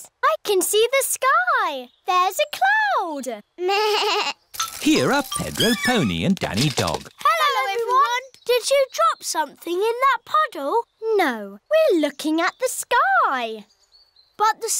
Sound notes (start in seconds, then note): 4.0 bleats